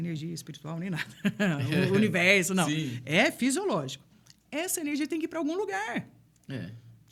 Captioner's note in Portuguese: risadas